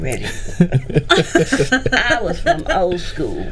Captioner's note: group laughing